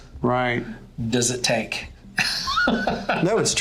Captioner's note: laughs